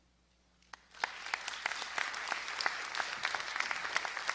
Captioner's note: crowd applauding